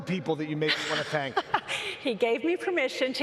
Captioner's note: laughs